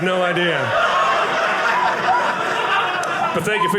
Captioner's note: audience laughing